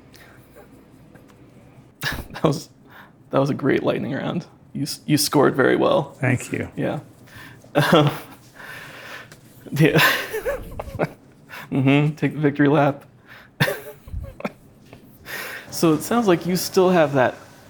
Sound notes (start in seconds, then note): 0.1 laughing; 7.8 laughing